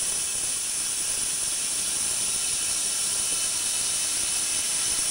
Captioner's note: saw whirring